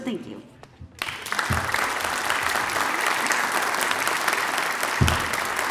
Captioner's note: applause